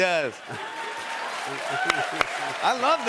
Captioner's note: cheers and applause